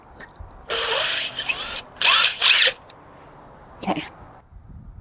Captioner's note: drill whirring